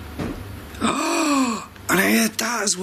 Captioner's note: clattering; gasps